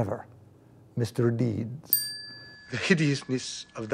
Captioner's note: bell dings